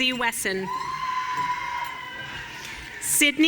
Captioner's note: audience cheering